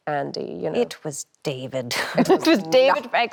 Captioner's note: laughs